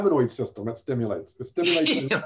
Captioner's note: laughter